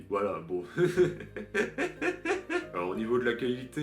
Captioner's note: laughs